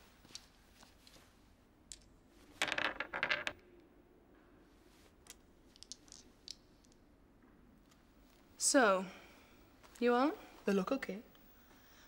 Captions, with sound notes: (dice clattering) - So, you on? - They look okay.